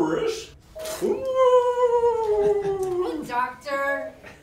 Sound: imitates walrus noise

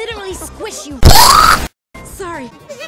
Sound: splat

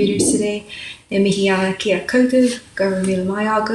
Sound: speaks maori

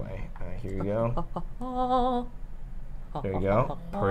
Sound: humming

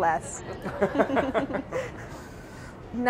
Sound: laughs

